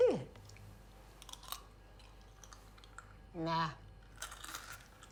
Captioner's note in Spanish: crujiendo